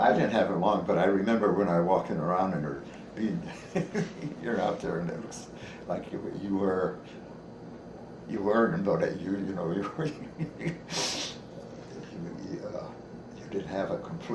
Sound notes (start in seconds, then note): 3.2 chuckles; 12.2 laughs